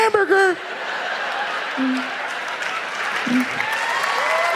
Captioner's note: audience laughs